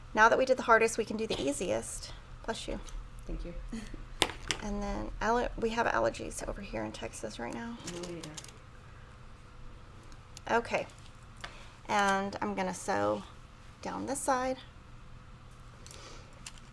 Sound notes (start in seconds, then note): 2.9 sneezing